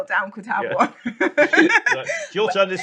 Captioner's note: laughs